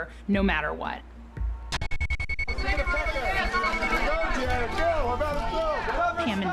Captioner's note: paparazzi shouting at once